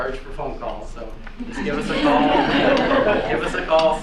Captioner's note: laughing